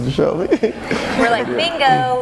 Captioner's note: laughing